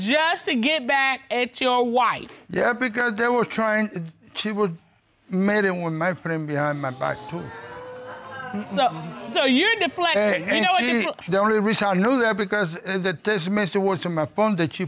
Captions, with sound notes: just to get back at your wife? Yeah, because they were trying-- she was meeting with my friend behind my back, too. [audience groans] So you're deflecting? You know what... And she-- the only reason I know that because the text message was from a phone